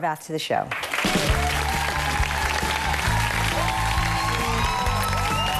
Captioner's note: audience applauding